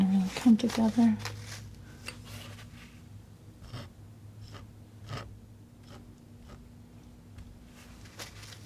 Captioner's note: scratching